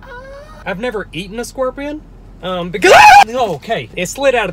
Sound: screams

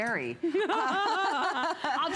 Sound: laughter

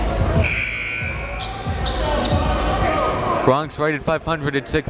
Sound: buzzer dings

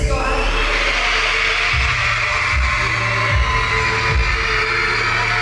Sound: crowd cheering

